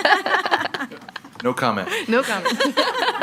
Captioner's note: people laughing